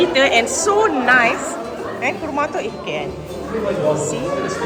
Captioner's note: speaking German